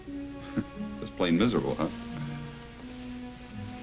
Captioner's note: chuckles